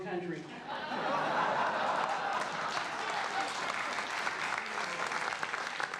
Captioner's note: crowd laughing and clapping